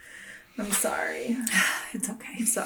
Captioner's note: sighs